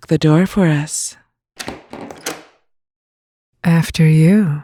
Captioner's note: unlocking, opening door